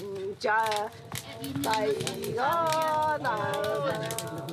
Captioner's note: foreign spoken audio